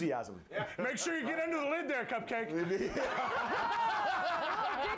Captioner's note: laughter